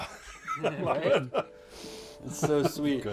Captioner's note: laughs